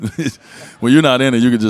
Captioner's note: Dwyane and audience laugh